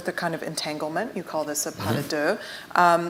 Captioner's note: speaks foreign language